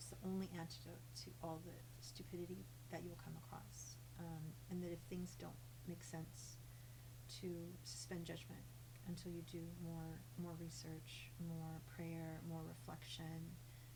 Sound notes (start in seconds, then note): none